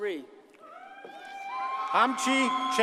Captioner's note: audience cheers and applauds